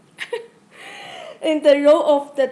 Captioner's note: laughing